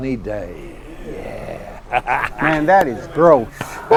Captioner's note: laughs